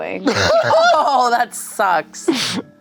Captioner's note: everyone laughs